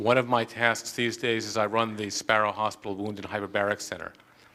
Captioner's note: none